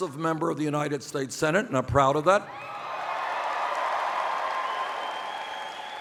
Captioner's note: cheers